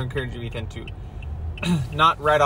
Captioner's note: ahem